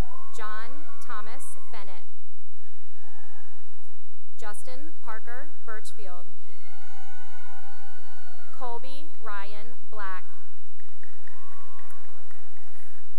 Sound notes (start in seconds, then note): 0.0 cheering and applause; 6.5 cheering; 10.6 cheering and applause